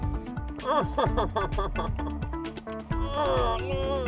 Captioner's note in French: Rires